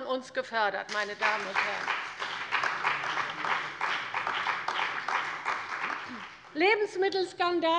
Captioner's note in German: Beifall bei der CDU und dem BÜNDNIS 90/DIE GRÜNEN